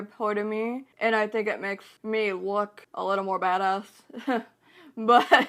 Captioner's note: laughs